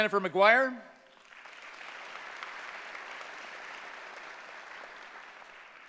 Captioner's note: applause